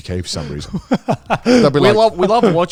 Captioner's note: laughing